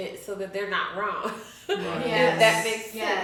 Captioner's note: chuckles